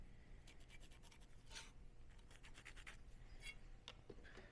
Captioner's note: pencil rubbing